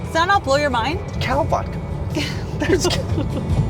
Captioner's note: laughter